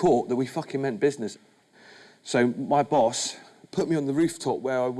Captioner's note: none